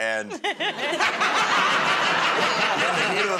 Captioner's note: laughter